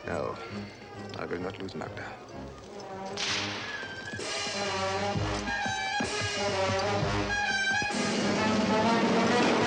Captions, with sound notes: No, I will not lose Magda. (whip cracks)